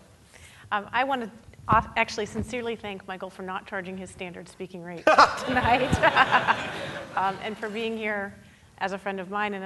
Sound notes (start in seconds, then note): 5.0 laughing; 5.1 audience laughing